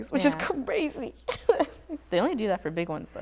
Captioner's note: laughs